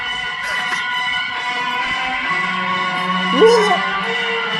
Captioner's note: laughs